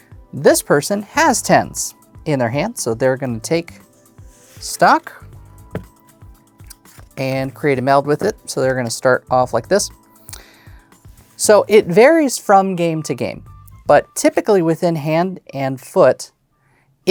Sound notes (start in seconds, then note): 5.7 taps cards; 16.1 song ends